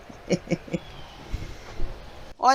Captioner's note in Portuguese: risos